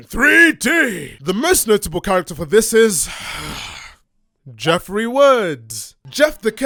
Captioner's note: sigh